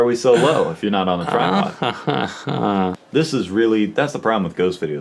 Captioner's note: chuckling